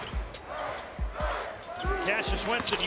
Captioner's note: crowd